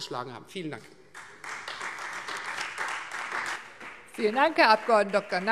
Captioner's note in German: Beifall Freie Demokraten